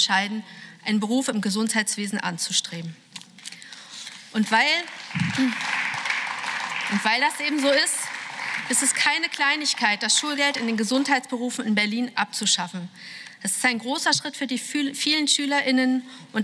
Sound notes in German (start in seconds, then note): 4.3 Beifall